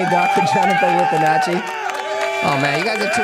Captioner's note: cheering